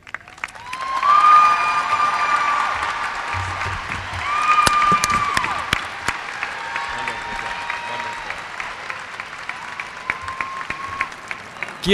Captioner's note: cheers and applause